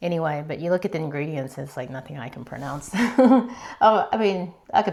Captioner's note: laughter